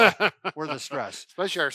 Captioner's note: laughing